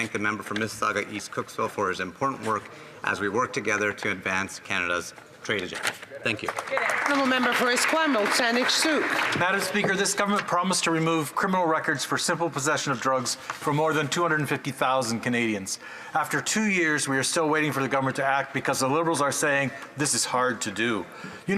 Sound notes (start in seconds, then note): 11.0 some Applause